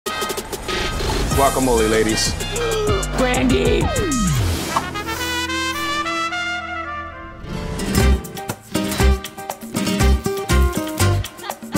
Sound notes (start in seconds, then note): 0.3 upbeat festive music; 2.4 gasping loudly; 8.3 upbeat festive music